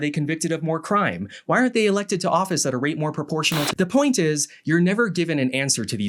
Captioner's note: TV static